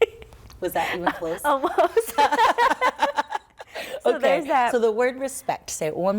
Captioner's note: laughter